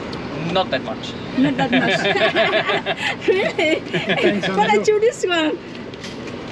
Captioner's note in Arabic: يضحك